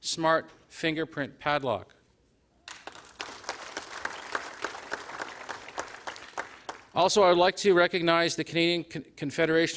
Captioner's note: applause